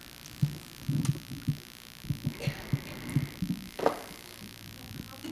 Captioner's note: laughter